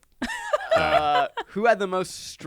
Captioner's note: laughs